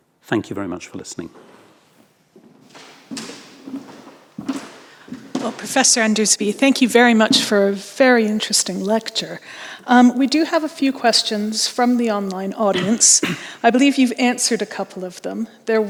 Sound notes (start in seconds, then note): 2.4 footsteps thudding